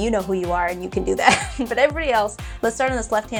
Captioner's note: laughing